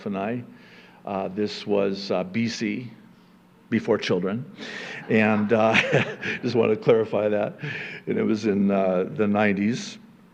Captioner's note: chuckle